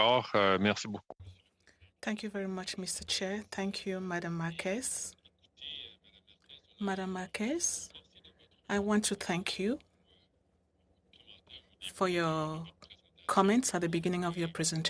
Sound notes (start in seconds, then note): 7.0 speaking French